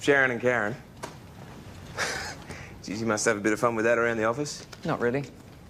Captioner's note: laughs